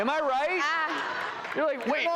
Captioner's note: laughing